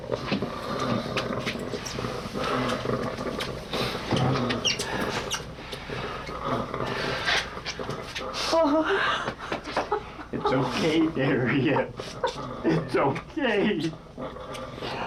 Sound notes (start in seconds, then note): 0.5 ragged Breathing Continues; 8.5 mother Sobbing; 11.2 sobbing